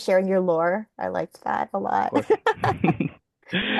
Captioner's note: laughing